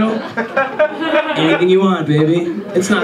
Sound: audience laughs

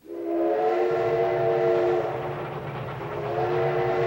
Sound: train horn whistling

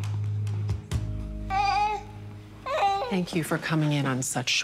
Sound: baby vocalizing

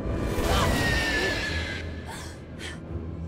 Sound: The Corvidae screams

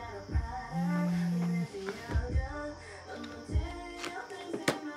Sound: cellphone buzzes

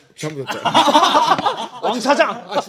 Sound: everyone burst out laughing lol

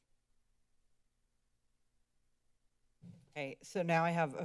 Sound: silence

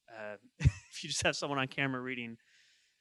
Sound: chuckling

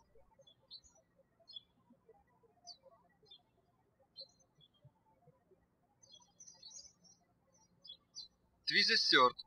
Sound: birds chirping

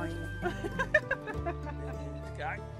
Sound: laughs

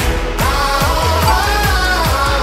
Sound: chime dings

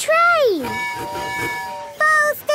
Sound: tooting

